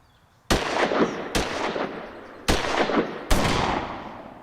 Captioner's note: gunshots